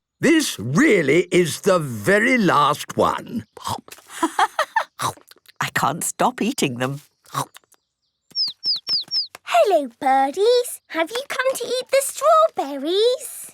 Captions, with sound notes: This really is the very last one... - (laughing) I can't stop eating them. - (chirping) Hello birdies! Have you come to eat the strawberries?